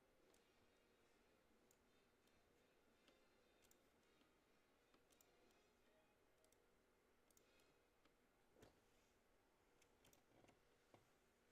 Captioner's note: mouse and keyboard clicking